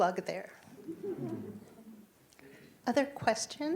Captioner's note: audience laughing